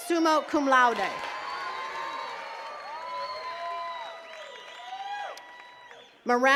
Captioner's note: attendees cheering and clapping